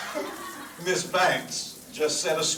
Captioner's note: team laughing